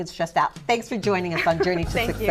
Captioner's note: laughter